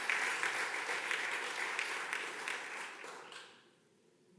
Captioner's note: audience clapping